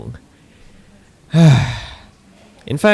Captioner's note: sigh